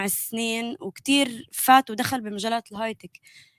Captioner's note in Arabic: لغة أجنبية